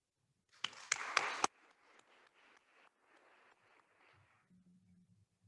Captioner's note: attendees applauding